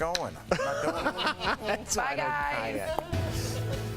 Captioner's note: laughter